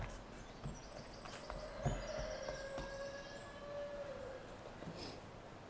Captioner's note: bird and rooster sounds